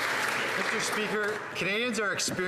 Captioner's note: applause